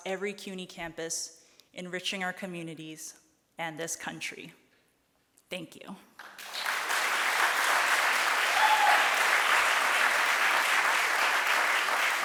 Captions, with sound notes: every CUNY campus, enriching our communities and this country. Thank you. (audience applauds)